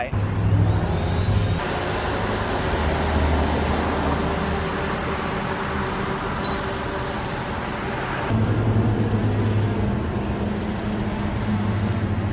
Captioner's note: drone buzzing